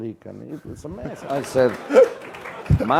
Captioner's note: laugh